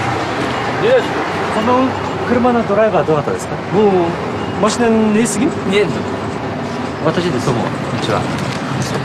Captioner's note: boo